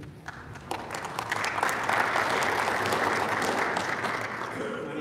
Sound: audience applauding

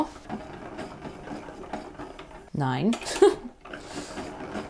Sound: ball winder ticks whirs

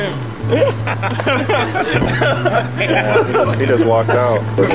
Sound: laughs

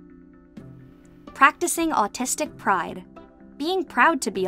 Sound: voice-over

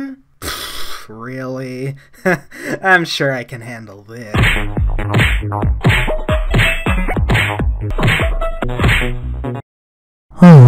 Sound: cartoon punch sound effect x7

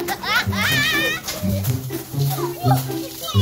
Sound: kids laughing; silly music

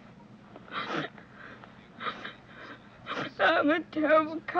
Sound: Anne crying

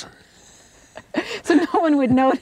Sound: both laughing

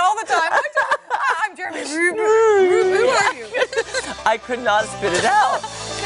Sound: laughter

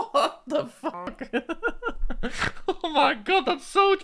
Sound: laughs

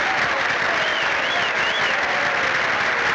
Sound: whistling

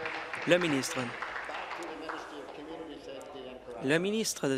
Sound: applause

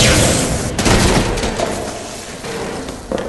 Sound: two more blaster shots; crash, object falls; footsteps close in

